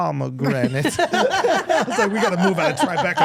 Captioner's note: everyone laughing